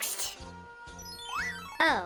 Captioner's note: Mario 3 SFX